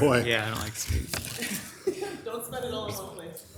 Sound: council members laugh

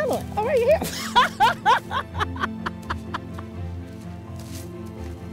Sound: woman laughs

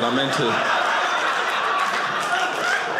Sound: audience laughing

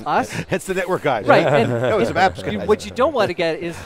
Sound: laughing

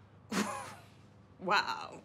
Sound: Maddie scoffs

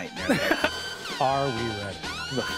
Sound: exhaling intensifies

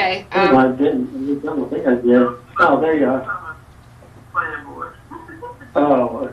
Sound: man speaking in the background

